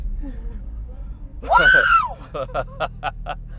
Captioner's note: screaming